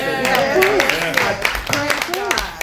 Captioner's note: applause